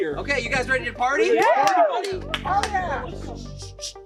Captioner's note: all cheering